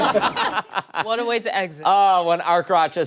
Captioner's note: laughter